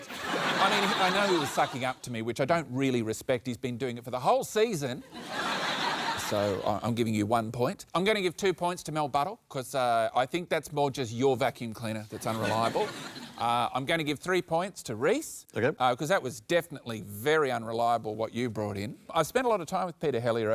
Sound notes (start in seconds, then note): 9.4 laughter